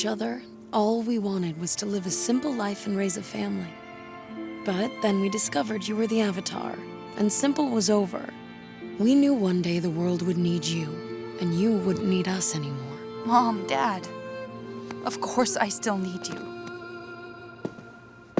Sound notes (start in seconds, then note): none